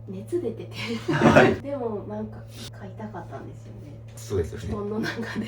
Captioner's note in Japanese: 笑い